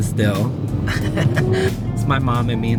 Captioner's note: laughing